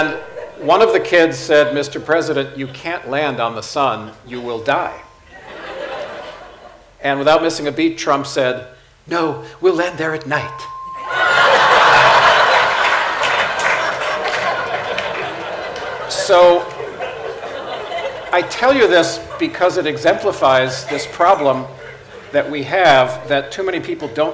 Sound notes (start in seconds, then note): 5.3 laughter; 14.9 laughter/Applause